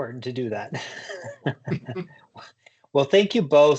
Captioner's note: chuckling